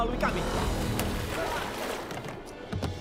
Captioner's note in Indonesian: Cody mengerang